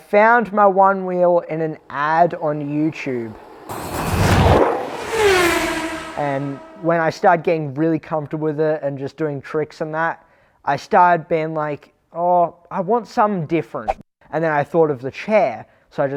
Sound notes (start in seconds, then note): 4.0 zooming sounds